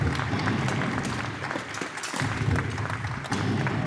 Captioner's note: cannon shots